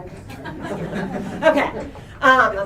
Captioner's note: laughter